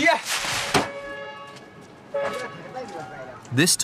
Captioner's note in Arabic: أصوات أبواق السيارات